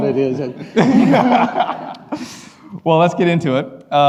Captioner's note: laughing